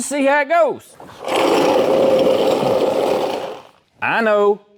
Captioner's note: roaring